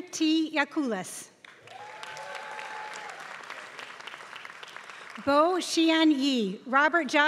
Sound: applause

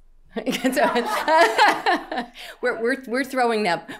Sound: laughing

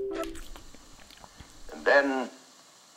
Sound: chewing

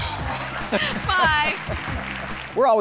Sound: crowd clapping; both laughing

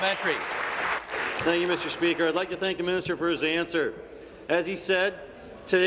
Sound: applause

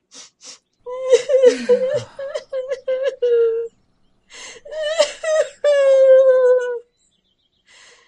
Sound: Trash-chan sobbing

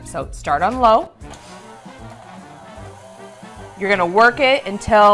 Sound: mixer whirring

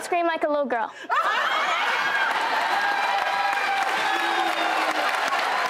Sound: audience cheering and clapping

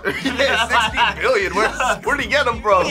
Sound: laughing

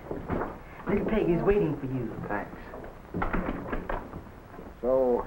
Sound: door closes

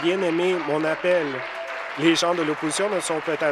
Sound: applause

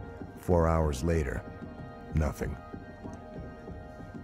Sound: voiceover

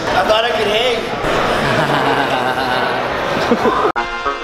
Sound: laughter

